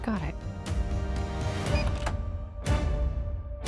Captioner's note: lock beeps, opens